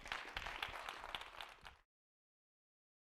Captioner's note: applause